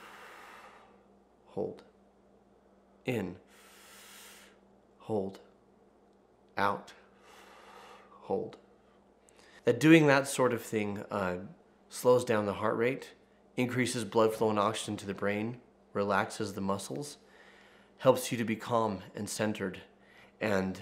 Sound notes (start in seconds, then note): 3.4 inhales; 3.4 exhales